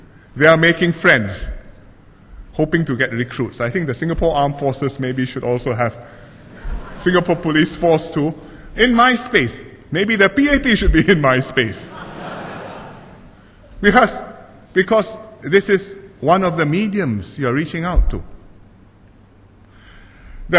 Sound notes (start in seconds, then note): 11.7 laughter